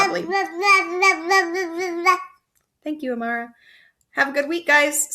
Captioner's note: baby noises